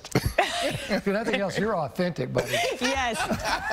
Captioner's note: laughter